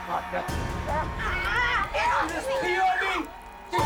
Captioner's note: urinating